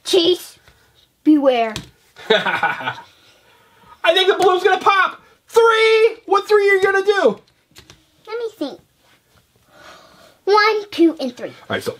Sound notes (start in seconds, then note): 2.2 laughing; 4.3 voiceover